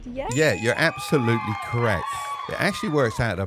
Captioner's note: bell dinging; crowd cheering